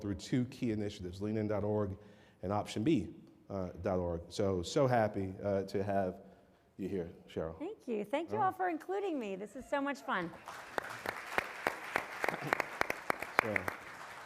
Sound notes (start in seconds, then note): 10.2 applause